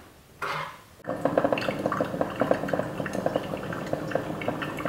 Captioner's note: water pouring